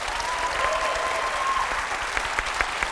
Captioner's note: cheering and applause